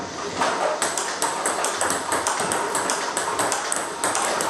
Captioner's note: ball ping pong hitting